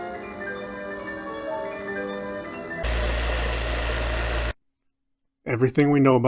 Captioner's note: Static